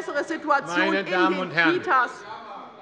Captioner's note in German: Zurufe von der CDU